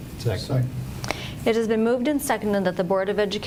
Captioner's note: none